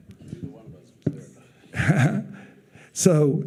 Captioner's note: chuckling